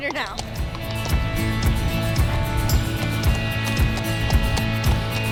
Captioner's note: horse walking; upbeat music